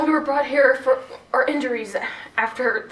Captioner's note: none